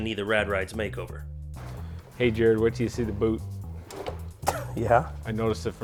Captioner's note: laughs